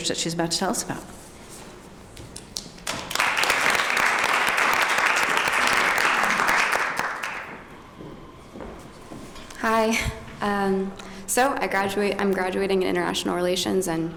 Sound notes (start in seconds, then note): 2.8 applause